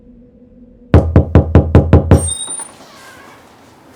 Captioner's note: knock on door